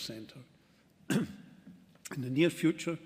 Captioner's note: clears throat